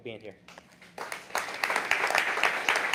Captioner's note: applause